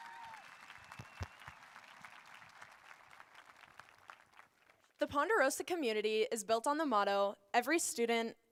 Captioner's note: applause